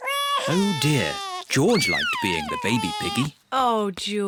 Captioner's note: bawls